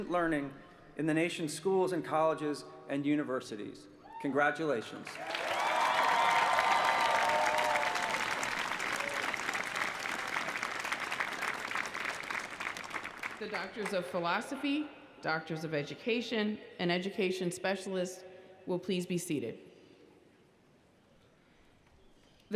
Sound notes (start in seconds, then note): 8.1 applause